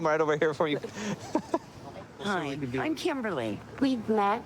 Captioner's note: laughing